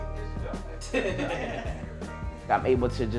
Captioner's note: laughter